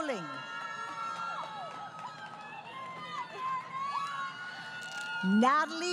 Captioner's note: crowd Cheering